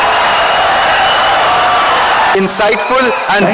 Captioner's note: audience cheering, applauding for 17 seconds